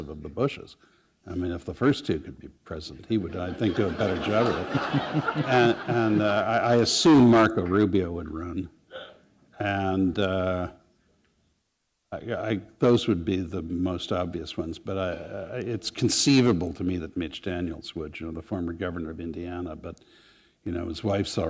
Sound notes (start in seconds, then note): 5.4 laughter